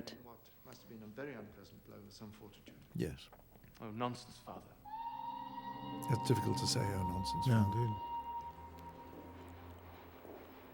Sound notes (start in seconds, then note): 4.8 train Whistle Blows; 10.3 train Chugging, Whistle Continues